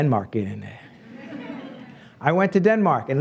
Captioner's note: laughs